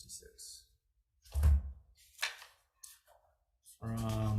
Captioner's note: binder thuds; papers rustling